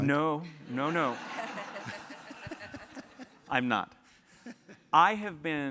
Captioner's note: laugh